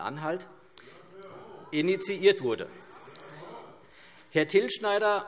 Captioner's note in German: Zurufe SPD: Hört, hört!